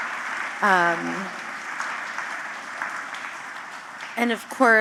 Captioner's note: applause